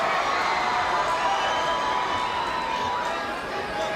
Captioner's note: crowd cheering